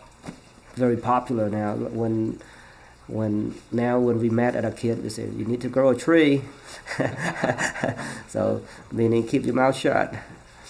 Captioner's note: laughs